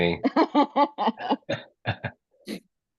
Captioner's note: laugh